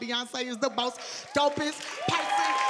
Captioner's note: audience cheering